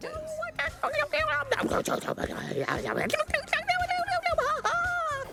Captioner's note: speaks adorable gibberish